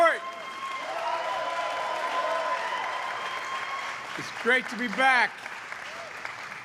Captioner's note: applause